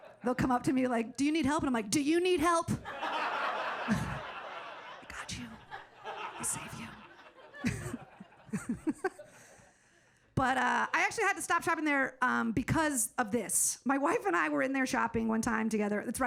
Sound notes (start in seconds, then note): 8.0 audience laughing